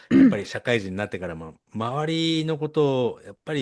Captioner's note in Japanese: 咳払い